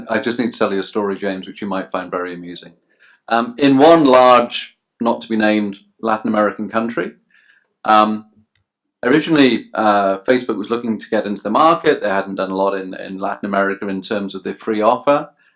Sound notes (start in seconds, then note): none